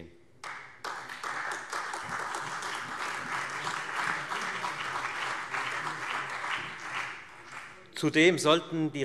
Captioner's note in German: Beifall Freie Demokraten, CDU, BÜNDNIS 90/DIE GRÜNEN, SPD und AfD